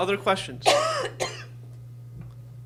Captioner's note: coughs